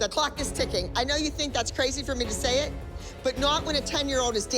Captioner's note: none